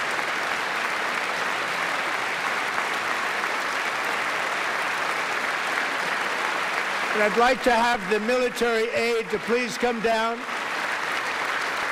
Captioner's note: applause